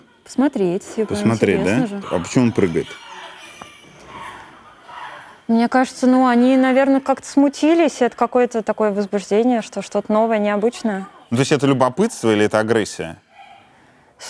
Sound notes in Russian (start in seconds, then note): 3.9 обезьяньи крики